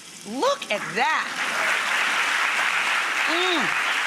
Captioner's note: audience applauds